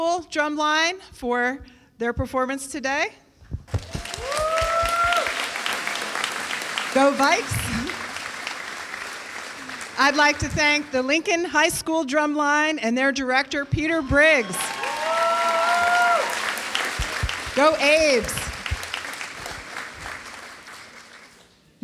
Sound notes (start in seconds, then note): 3.7 applause; 13.4 applause and Cheering